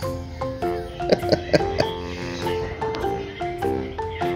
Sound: laughs

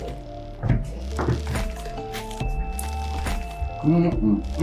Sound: footsteps

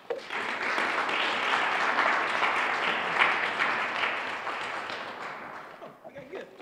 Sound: applause

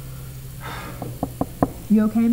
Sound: sighs; door knocks

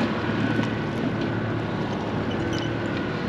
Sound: boat engine idling

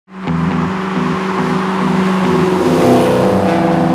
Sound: cars revving

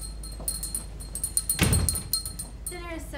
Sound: bell rings

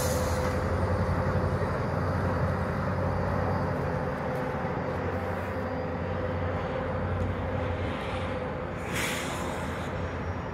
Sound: air brake; receding engine rumble

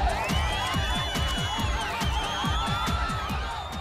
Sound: shouting, whistling

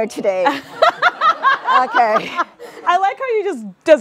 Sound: all laugh

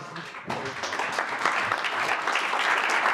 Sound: applause

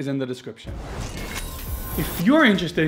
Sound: laser zapping

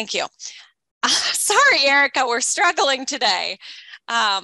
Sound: laughs

